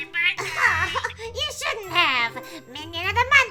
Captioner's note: laughs